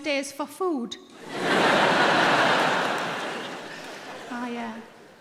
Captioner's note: audience laughing